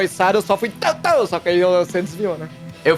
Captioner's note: pow pow